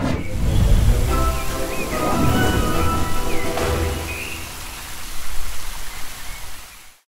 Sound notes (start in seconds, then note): 0.7 upbeat music; 3.2 water spraying